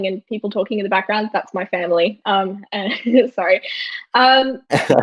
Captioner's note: laughing; laughs